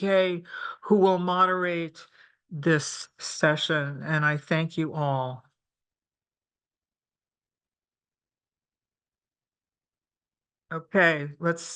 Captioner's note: pause